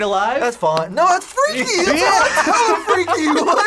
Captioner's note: laughs